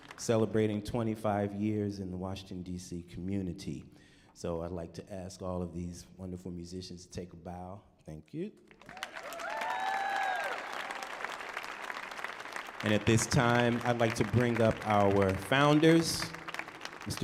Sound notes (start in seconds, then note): 8.7 audience applauding and cheering